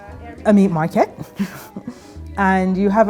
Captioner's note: chuckles